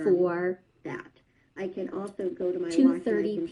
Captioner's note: other video playing in background